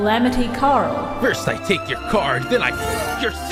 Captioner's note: Bandit Keith voice